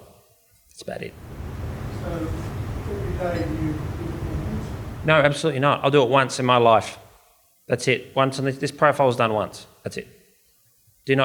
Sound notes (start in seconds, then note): 1.3 audience member murmurs